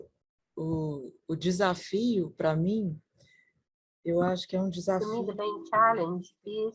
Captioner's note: speaking in foreign language